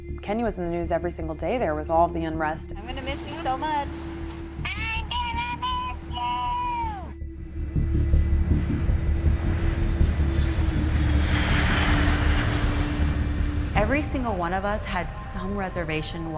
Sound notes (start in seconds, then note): 7.6 plane engine roaring; 7.6 tranquil music